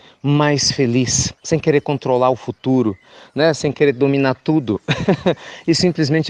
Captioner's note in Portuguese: Risos